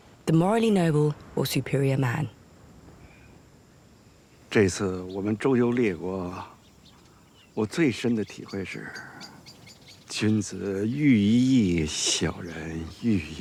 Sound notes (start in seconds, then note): 4.8 hablan un idioma extranjero